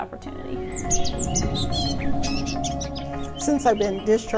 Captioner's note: birds singing